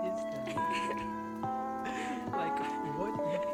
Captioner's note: girls giggling